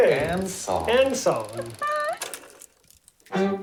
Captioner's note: laughs